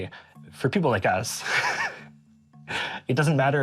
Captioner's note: chuckling